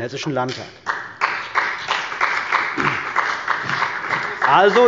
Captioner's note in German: Beifall bei dem BÜNDNIS 90/DIE GRÜNEN und der CDU